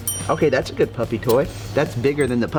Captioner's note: ding